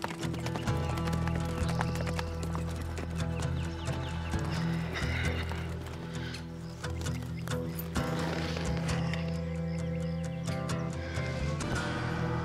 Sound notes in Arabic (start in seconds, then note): 6.0 تنهدات